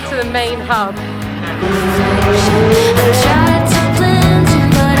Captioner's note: cars rush past